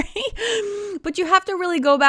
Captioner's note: chuckling